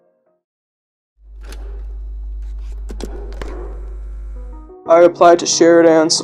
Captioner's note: cassette reloading noise